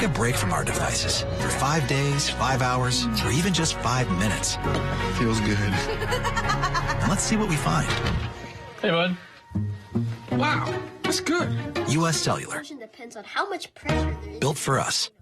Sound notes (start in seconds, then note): 5.8 laughs